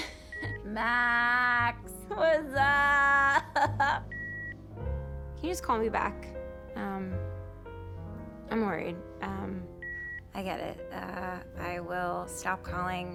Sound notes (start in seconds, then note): 0.2 line beeps; 9.8 line beeps